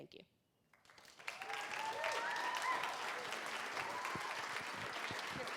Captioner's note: applause and cheering